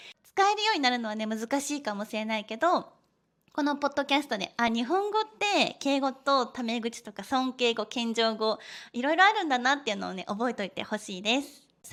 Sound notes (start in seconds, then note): 6.0 casual speech